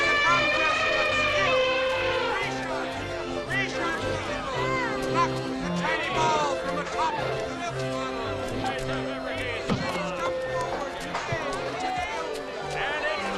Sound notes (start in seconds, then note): 0.0 elephant trumpets; 3.7 carnival workers barking